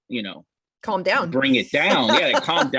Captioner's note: laughs